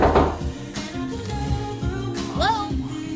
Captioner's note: knuckles rapping